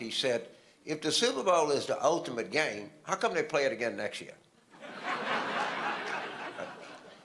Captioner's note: audience laughter